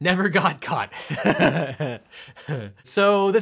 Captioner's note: laughing